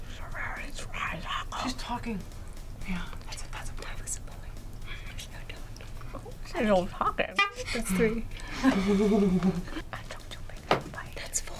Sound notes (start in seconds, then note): 3.9 whispering